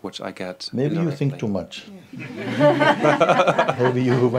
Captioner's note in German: Lachen